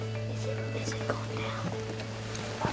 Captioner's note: whispering